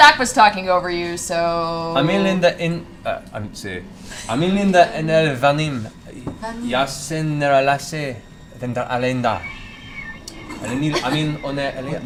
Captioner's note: speaking in Elven